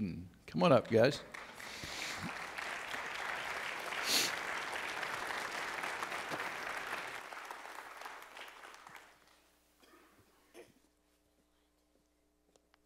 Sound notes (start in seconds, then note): 1.2 audience Applauds